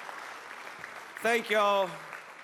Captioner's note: applause